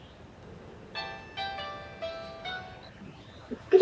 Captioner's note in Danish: telefonen ringer